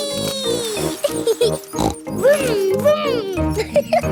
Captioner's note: laughs and snorts; laughing